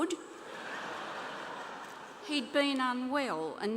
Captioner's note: laughter